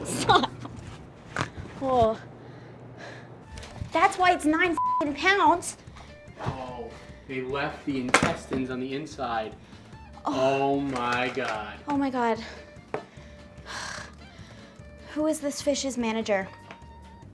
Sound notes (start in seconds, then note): 1.4 snorts and sighs; 4.7 beep; 13.7 exhales heavily